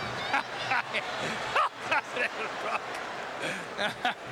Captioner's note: laughing